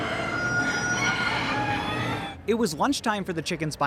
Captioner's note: barn noises